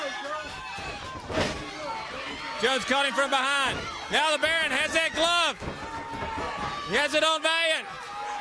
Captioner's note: crowd chatter